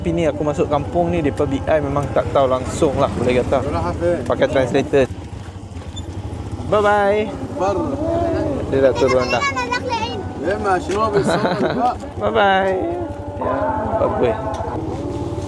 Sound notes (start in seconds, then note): 10.0 speaking Arabic; 10.4 laugh; 10.4 speaking Arabic